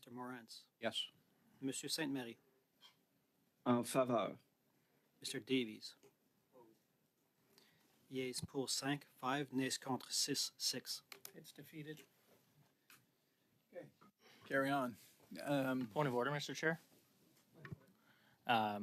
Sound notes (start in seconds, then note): 7.6 speaking French